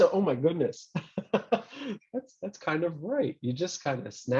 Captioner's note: laughs